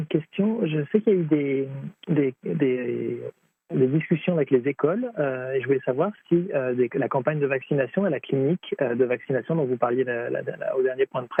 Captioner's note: speaking French